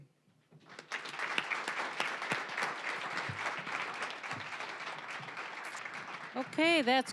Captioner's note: applause